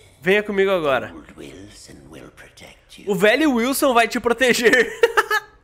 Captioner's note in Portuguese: risos